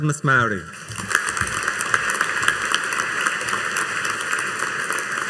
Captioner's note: audience applauding